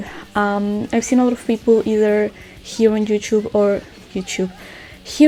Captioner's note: changes pronunciation